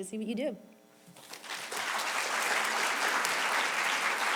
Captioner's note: clapping